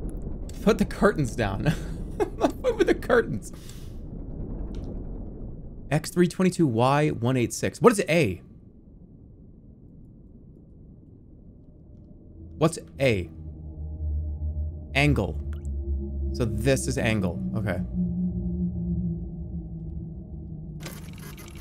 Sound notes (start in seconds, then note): 2.2 laughs